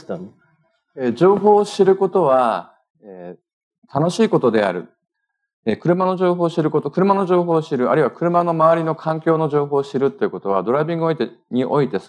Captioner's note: speaking japanese